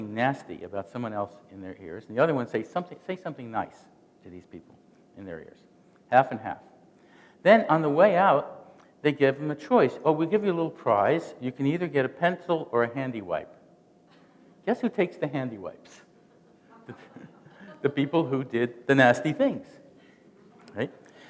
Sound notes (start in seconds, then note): 16.2 chuckling